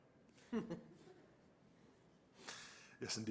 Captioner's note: laughter